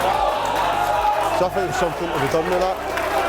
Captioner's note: crowd cheers loudly